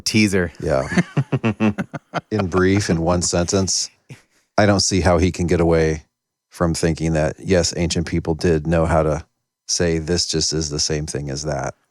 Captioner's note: laughing